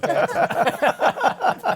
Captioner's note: laughter